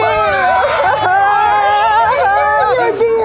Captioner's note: laughter